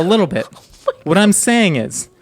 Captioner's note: laughing